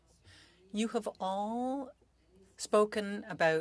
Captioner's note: speaking French